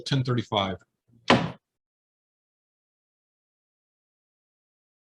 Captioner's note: gavel pounding